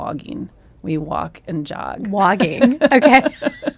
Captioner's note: laughs